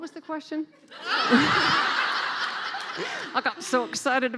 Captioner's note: laughing